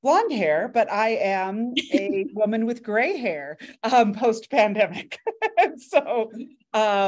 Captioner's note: laughs